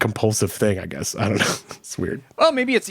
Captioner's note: chuckles